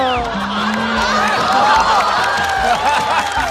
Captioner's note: laughter